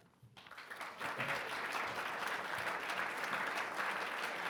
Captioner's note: audience clapping